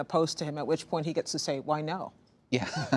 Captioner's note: laughter